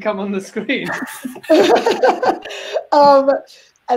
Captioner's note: laugh